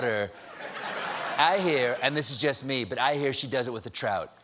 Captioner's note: laughter